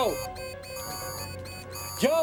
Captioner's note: alarm